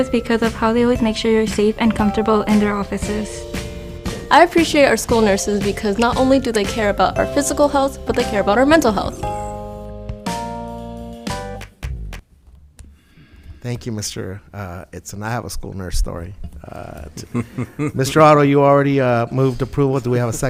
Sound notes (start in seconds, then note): 9.4 bright music; 17.0 laughing